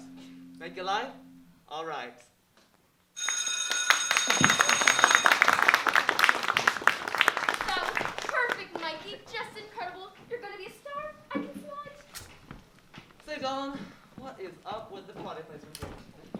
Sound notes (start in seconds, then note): 3.1 studio bell ringing